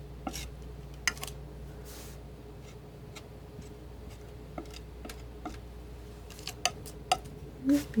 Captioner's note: scratching